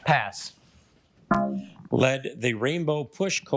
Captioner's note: failure chime